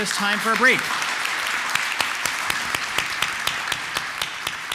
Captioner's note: applause